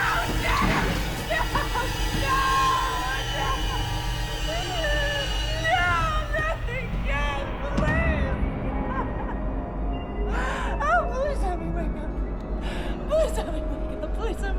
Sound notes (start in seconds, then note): 3.8 wails; 9.7 wails